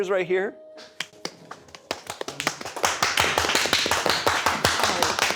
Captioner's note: everyone clapping